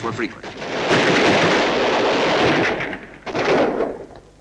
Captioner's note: guns blasting